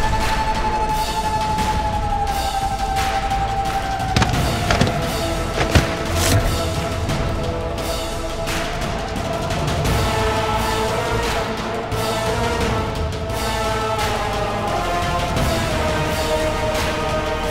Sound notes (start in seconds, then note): 4.2 thud